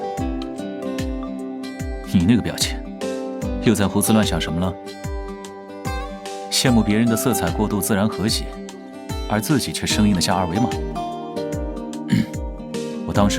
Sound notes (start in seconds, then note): 12.0 ahem